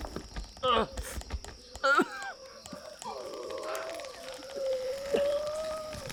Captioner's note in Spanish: Jonathan tose y gime